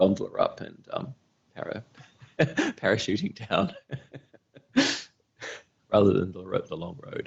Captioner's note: laughing